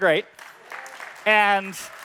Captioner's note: applause